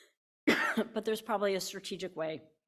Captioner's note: coughing